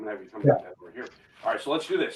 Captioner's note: voice muffling